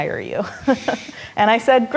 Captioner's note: laughing